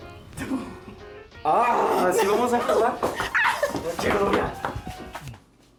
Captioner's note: speaking spanish